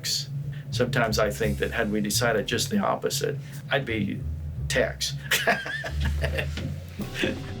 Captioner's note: laughs